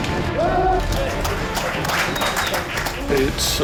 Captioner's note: crew cheering & applauding